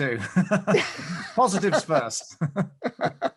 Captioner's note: both laugh; laughs